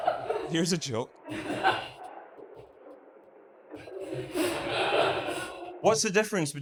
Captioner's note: audience laughs